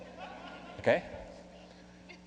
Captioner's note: laughing